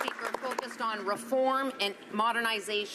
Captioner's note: some Applause